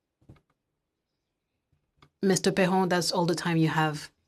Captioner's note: speaking French